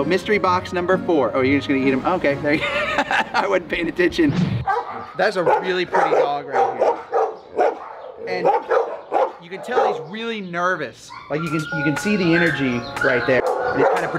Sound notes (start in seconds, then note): 2.5 laughs